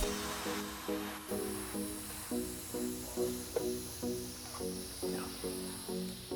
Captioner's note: hydraulic car lift hissing